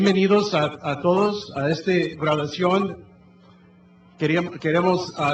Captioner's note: speaking in foreign language